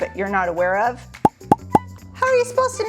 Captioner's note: popping